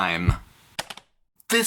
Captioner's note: click